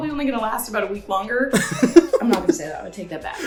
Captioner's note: laughing